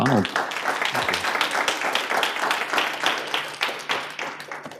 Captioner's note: audience applauding